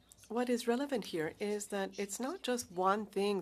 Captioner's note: speaking French